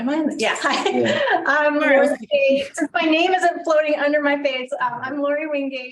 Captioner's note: laugh